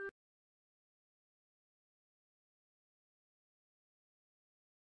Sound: silence

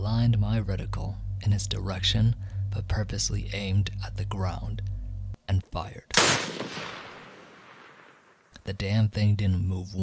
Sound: rifle Shot

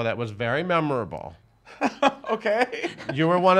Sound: laughing

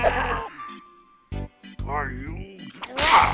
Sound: groaning

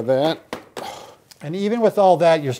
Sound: exhales loudly

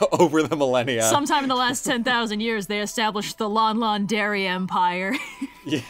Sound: laughs; laughs

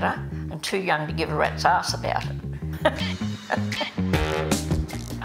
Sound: laughs

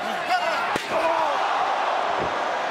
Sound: metallic blow landing; body thuds

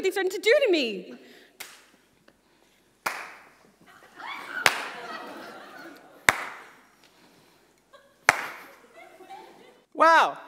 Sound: slow clapping

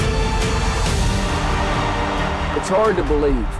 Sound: crowd roaring

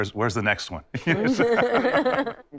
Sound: all chuckle

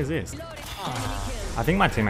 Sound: villager Minecraft thinking s ounds

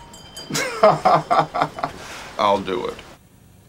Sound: laughs

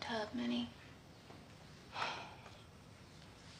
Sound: sighing

